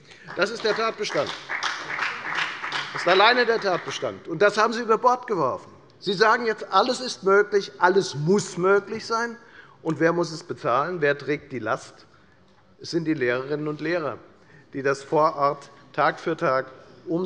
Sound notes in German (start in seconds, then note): 0.0 Beifall bei der FDP